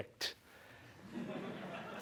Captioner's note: laughter